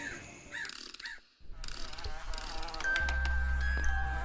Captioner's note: fly buzzes; music box winds; gentle music